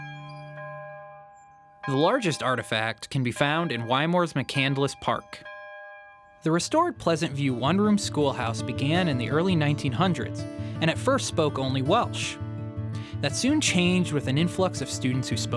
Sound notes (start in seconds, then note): 1.8 church bells ringing